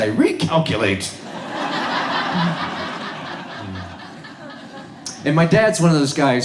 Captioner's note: audience laughs